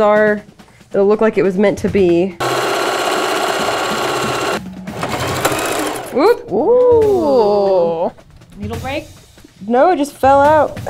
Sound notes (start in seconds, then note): 2.4 sewing machine roaring